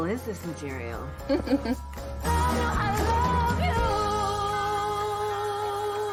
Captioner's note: Jennifer laughs